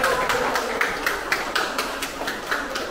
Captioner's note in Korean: 박수